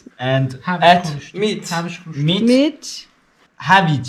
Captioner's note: in Farsi